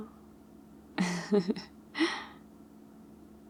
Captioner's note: laughs